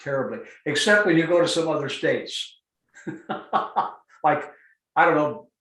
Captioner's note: laughs